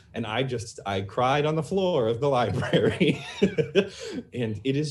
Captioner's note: laughs